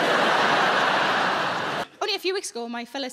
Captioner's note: audience laughing